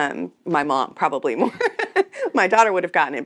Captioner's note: laughs